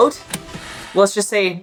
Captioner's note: film rewinding sound effect; background music